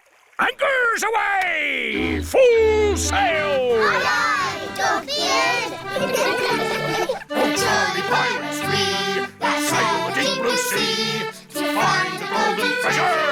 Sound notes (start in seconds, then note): 4.4 giggling